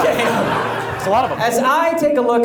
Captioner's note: audience laughs